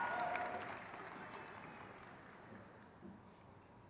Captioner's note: crowd cheers